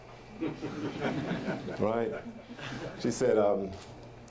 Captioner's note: audience laughter